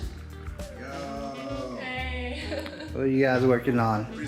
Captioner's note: chuckles